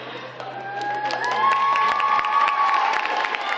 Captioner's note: cheering and clapping